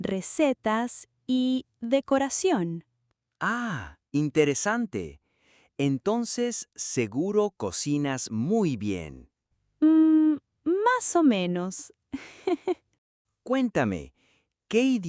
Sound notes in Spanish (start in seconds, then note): 12.1 risas